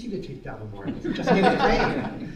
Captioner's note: laughter